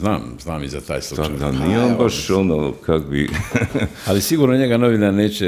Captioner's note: laughter